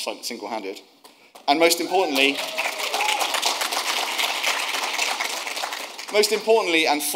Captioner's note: audience applauding